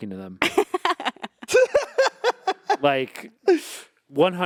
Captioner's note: group laughing